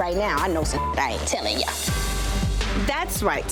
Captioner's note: beep